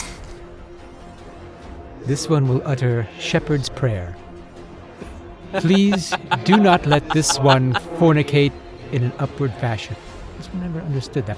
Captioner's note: chuckles